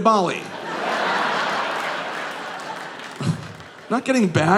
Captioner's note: audience laughing